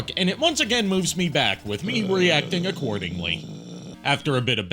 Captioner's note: cut to b-roll of growling in frustration